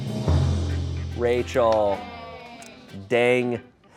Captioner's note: audience exclaims